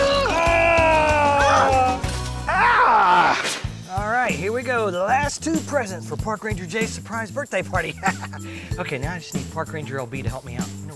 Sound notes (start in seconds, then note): 0.2 yelling; 7.8 chuckling